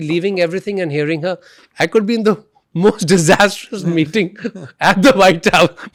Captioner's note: laughs; laughs